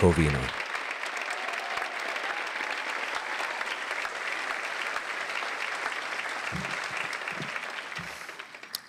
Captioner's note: applause